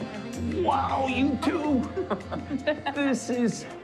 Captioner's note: laughing